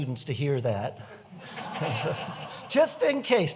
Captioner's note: laughter